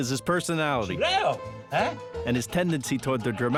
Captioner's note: exclaiming in Italian